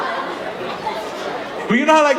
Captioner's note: audience laughing